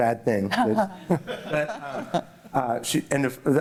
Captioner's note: laughter